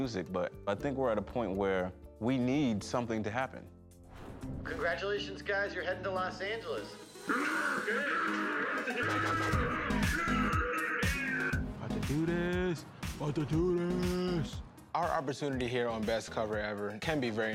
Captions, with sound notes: I love the music, but I think we're at a point where we need something to happen. Congratulations, guys, you're heading to Los Angeles. ( all exclaiming ) I can do this. 'Bout to do this! Our opportunity here on "Best Cover Ever"